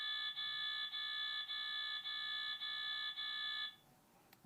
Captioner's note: alarm beeping